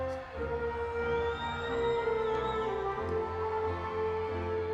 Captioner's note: audience whistles